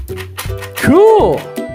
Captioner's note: toy drilling